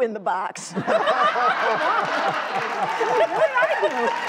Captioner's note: laughing and applauding